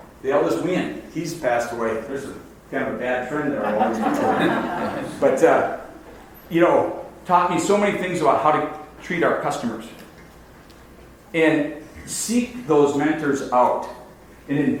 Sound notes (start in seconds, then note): 3.6 audience laughs